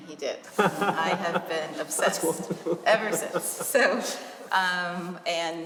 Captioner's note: laughter